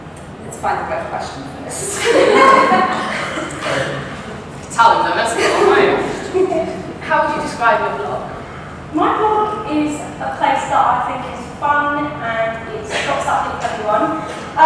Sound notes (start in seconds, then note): 1.8 audience laugh; 6.5 more laughter